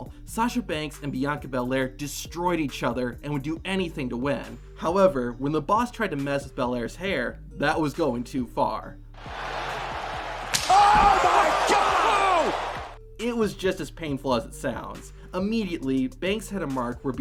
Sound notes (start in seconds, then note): 9.2 crowd cheers; 10.4 whiplash sound